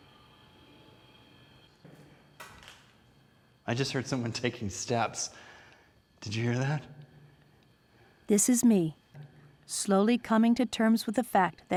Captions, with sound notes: [ Footsteps ] -I just heard someone taking steps. Did you hear that? -This is me slowly coming to terms with the fact